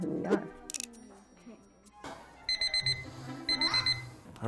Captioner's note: beeping